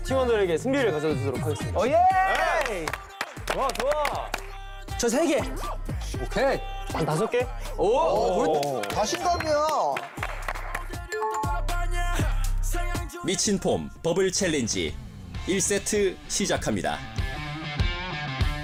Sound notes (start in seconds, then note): 2.4 applause